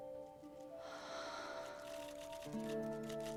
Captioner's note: sighs